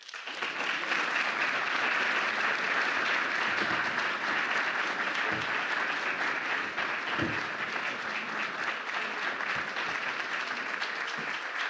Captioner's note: applause